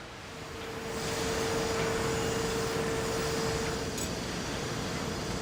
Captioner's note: machinery whirring